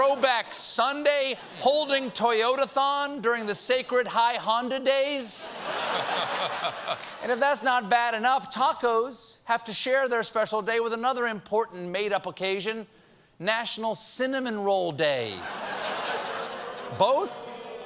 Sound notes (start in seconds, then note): 5.4 laughter; 15.4 audience reacts; 15.4 laughter